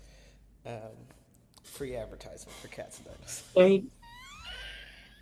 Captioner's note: laughs